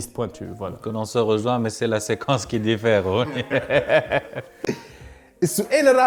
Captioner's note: laughs